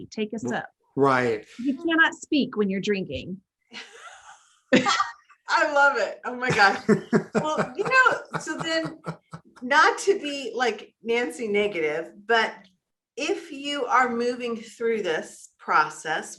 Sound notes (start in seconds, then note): 6.4 laughing